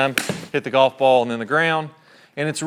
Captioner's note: golf club hits golf ball